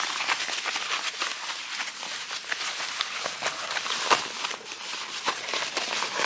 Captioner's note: material ruffles